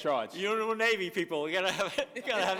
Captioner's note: laughter